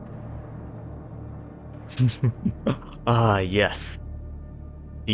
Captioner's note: giddy laughter returns!